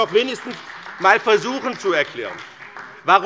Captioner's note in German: Beifall bei BÜNDNIS 90/DIE GRÜNEN und der CDU